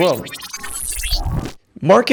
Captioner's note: metallic beeping